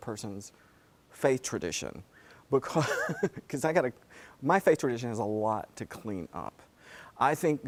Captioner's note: laugh